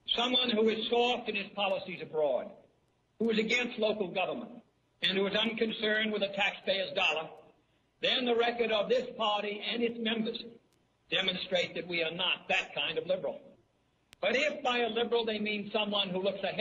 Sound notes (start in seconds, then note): 10.6 speech